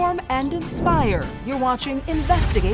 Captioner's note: air whooshing